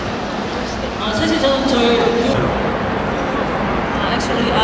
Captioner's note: speaking Korean